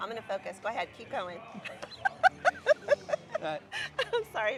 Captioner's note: chuckles